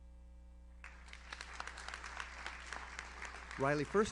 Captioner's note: audience applauds